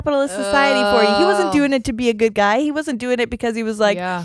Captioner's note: groans